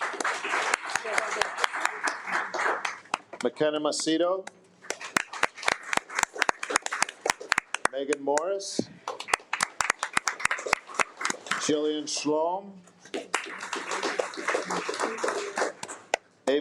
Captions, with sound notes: (attendees applaud) Makena Macedo, (attendees applaud) Megan Morris, (attendees applaud) Jillian Schlom, (attendees applaud)